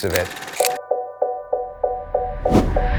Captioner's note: film reeling; book swooping in